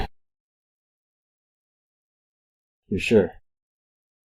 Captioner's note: silence